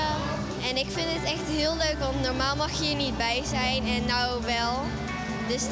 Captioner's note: speaking in foreign language